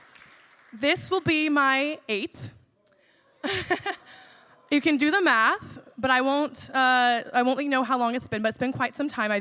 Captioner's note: laughs